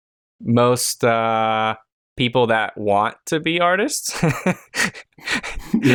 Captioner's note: chuckles